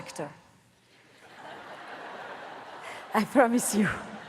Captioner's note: audience laughs